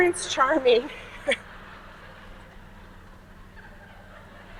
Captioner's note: audience laughing